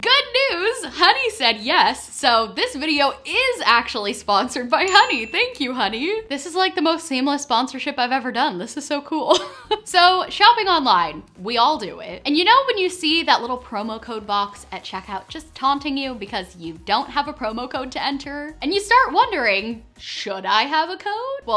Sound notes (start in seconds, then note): 4.8 dinging